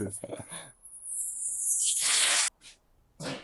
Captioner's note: laughs; bird chirping